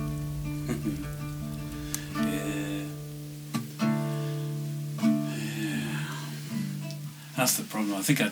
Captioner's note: chuckles